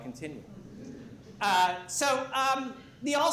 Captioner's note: laughter